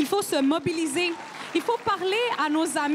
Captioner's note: crowd cheering and applauding